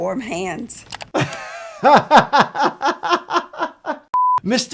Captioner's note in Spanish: riendo